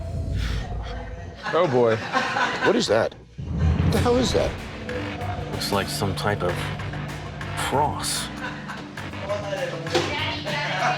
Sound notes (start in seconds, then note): 1.2 customers laughing; 3.3 dramatic music